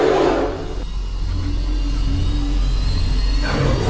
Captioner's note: King Kong roars; Shin Godzilla starts recharging